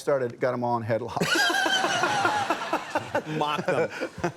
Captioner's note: everyone laughs